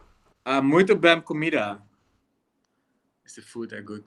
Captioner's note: Pieter speaking in foreign language